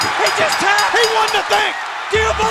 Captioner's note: bell ringing